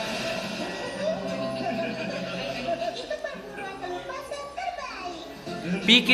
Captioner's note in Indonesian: Semuanya Tertawa